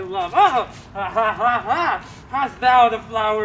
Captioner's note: laughs